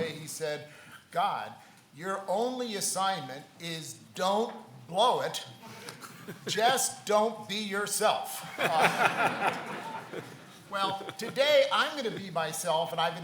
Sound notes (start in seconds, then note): 8.4 laughs